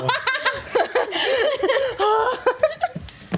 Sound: laughs

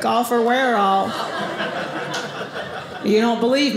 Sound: audience laughing

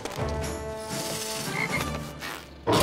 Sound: croaking

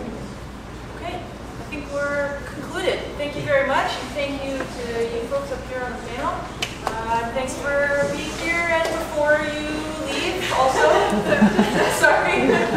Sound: laughter

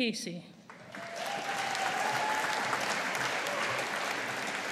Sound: audience applauding

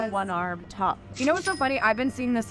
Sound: cash register ringing

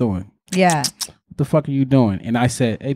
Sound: lips smacking

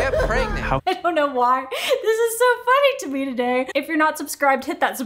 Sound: laughs

